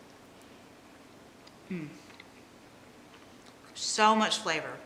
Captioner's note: humming